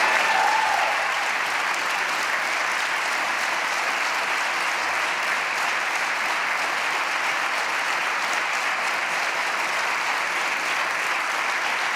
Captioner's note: applause